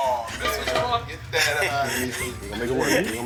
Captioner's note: laughs